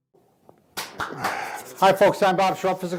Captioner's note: claps hands